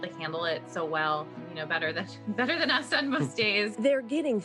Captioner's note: laughs